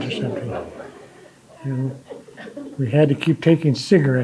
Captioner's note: audience laughing